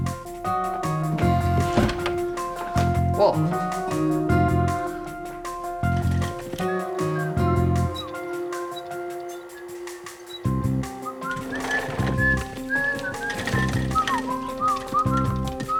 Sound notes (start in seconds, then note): 7.6 soft whistling; 9.7 Rhydian whistling